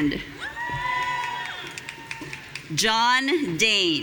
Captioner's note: audience cheering